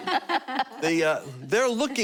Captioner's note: laughter